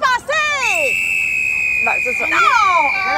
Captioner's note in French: sifflet